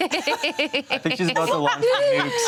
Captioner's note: everyone laughs